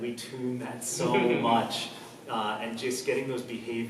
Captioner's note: laughs